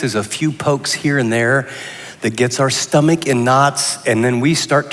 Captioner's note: none